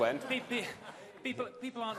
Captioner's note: laughter